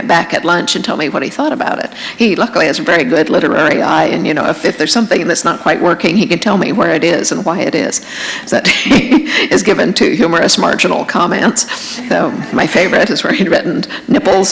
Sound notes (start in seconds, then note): 8.8 chuckle